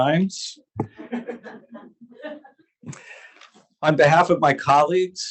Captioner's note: audience laughs